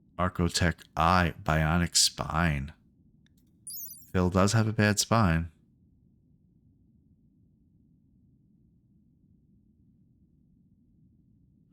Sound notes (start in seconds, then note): 5.3 silence